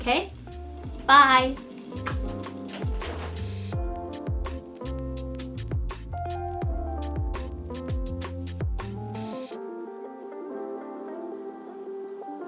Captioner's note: kisses